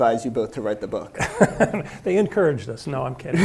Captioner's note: laughs